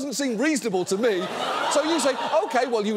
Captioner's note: audience laughing